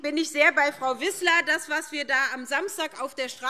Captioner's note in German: none